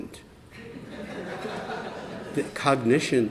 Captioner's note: laughter